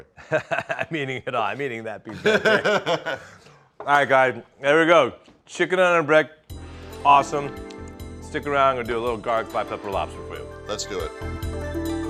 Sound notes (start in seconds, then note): 0.3 laughing; 2.1 both laugh